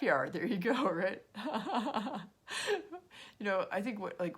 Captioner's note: laughs